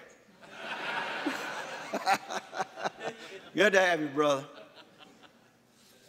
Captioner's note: laughing